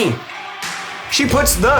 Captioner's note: smack